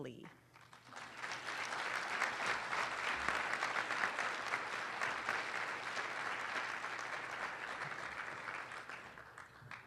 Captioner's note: applause